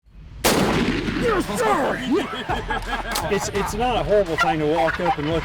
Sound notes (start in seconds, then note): 0.4 gun fires